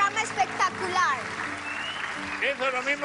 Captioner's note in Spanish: Silbidos; Aplausos